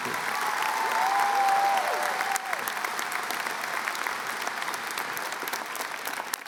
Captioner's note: applause